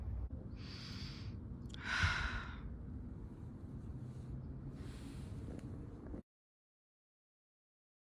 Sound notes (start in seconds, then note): 1.8 taking a deep breath